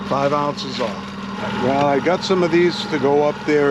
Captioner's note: boat engine running